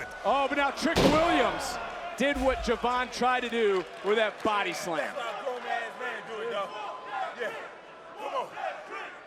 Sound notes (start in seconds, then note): 5.3 audience cheering